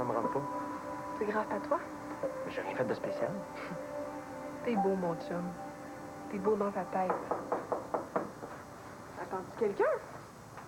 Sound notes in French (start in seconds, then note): 7.0 Toc! toc!